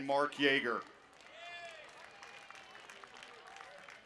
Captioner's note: applause